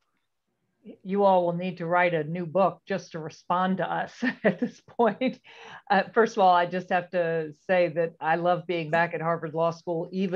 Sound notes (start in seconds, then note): 4.2 laughter